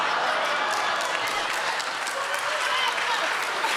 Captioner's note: laughter